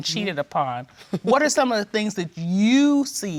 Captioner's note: laughs